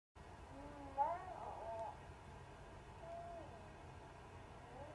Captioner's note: cooing